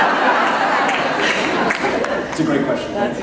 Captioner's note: laughter